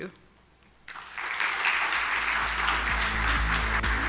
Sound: crowd applauding; upbeat ambient music

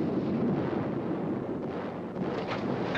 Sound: shots firing

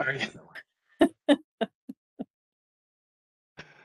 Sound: laughter

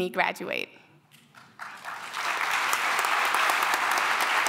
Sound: applause

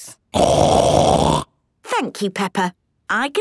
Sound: loud snort

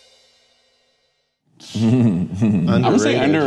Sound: laughs

